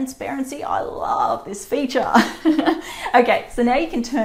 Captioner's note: laughs